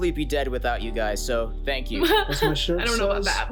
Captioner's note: chuckles